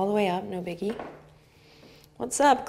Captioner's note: floor creaks